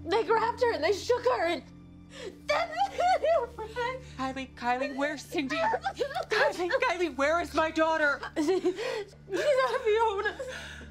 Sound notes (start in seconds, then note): 2.4 sobbing, muttering